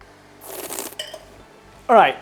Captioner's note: slurps